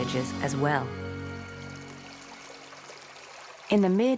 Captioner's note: water running